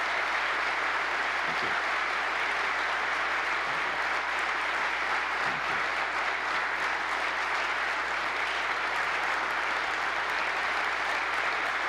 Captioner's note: applause